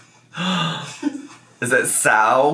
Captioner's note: gasps